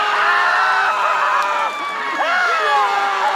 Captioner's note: screams